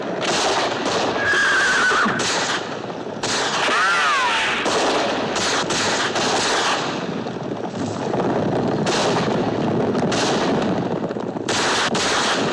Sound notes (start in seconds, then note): 3.5 bullet ricochets